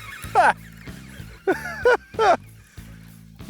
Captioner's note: laughing